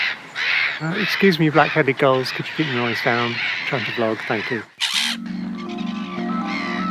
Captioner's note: squawk